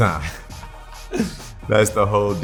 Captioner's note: laughs